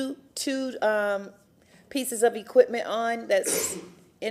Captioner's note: echoing